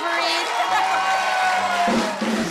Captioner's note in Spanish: Ovación